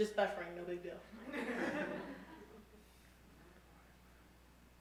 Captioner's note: audience laughing